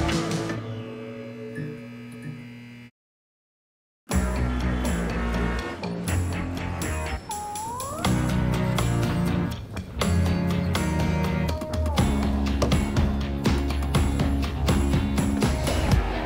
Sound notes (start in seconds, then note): 1.4 sign buzzing; 4.1 upbeat music